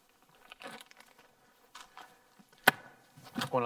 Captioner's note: plastic rustling; plastic popping